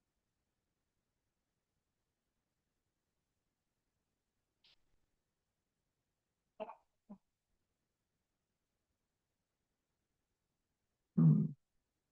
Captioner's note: pause